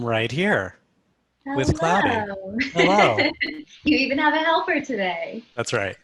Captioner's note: laugh